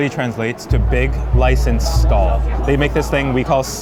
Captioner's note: text booming